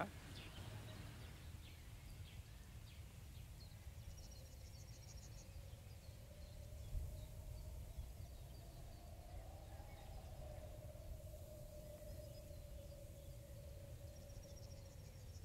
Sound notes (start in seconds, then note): 3.9 birds chirping; 3.9 wind howling